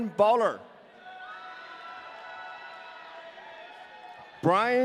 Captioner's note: audience cheering